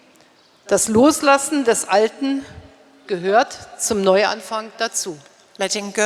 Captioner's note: speaking in German